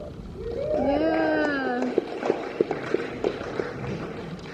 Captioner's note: audience cheering